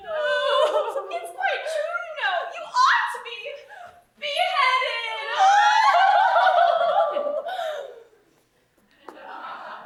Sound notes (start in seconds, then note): 4.9 women sob